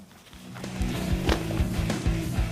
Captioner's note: sounding gavel